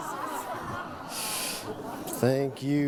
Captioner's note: crowd laughs